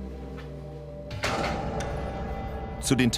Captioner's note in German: Tür kracht ins Schloss